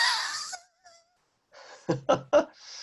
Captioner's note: laughs